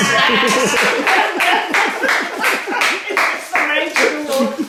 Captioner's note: cheerful laughing